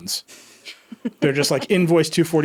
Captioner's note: laughing